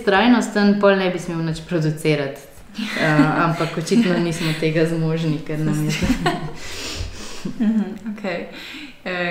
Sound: laughs

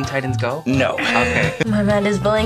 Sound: buzzer buzzes

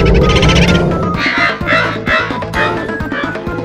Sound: laughing

